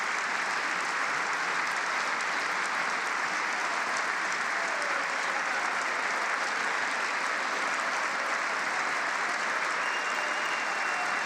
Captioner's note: applause